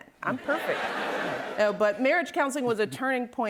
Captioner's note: laughter